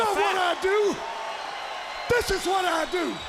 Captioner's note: crowd cheering